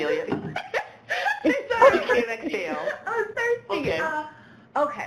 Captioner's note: laughs